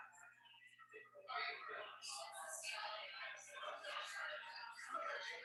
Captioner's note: people chattering indistinctly